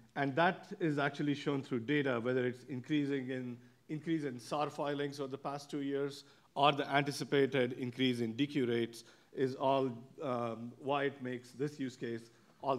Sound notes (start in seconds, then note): none